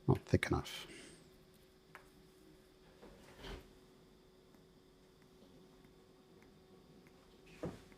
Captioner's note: silence